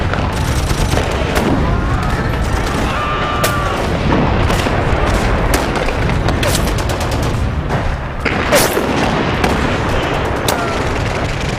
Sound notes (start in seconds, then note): 0.1 guns firing; 2.8 screaming